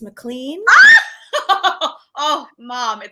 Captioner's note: giggling